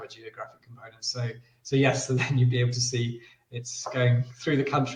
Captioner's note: laughs